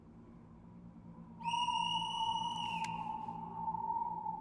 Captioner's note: whistle blows